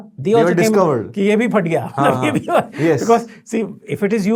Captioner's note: chuckles